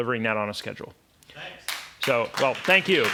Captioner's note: voiceover